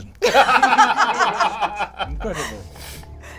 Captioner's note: all laugh